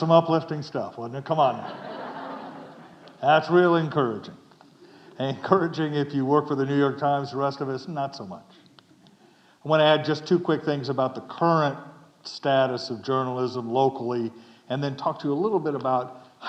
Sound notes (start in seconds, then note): 1.5 audience chuckling